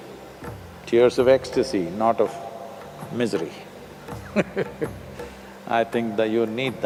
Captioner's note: laughs